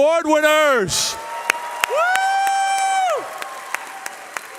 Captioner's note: cheering